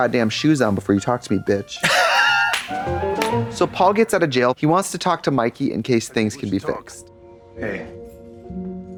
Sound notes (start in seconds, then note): 2.8 bright chime; 8.7 sentimental music